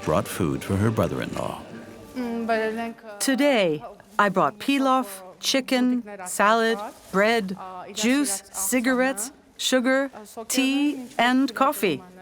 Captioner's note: voiceover